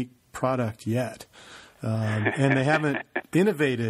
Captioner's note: laughs